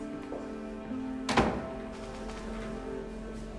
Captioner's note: door closes